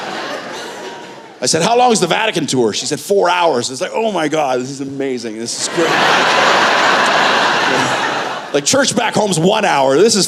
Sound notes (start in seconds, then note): 5.6 laughter